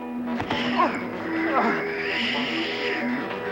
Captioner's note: intense music; dad yelling; Sleestak wheezing